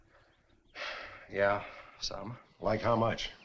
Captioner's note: sighs